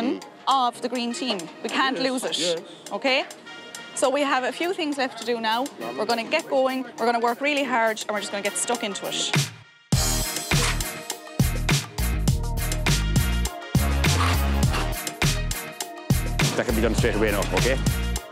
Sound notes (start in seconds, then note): 9.0 upbeat music; 14.0 trowel scrapes